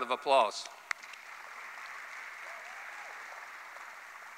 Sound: applause

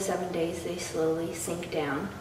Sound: none

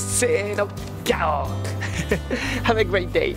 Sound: lion roar in Japanese

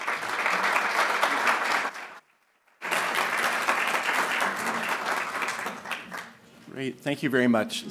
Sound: applasue

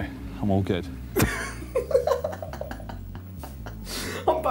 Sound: laughing

